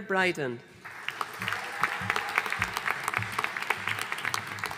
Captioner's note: audience applauding